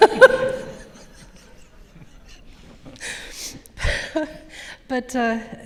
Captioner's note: audience laughs; laughs